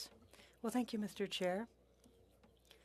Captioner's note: speaking French